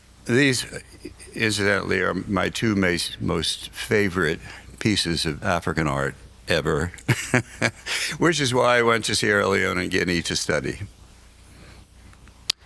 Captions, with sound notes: These, incidentally, are my two most favorite pieces of African art ever, (laughs) which is why I went to Sierra Leone and Guinea to study.